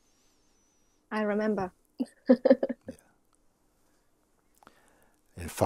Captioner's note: laughs